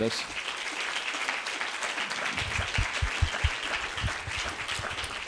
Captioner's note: audience applauding